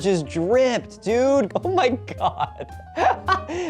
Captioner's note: giggling